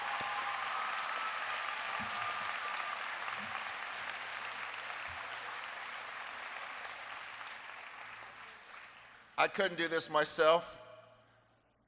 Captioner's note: applause